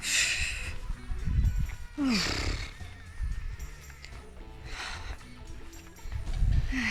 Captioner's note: sigh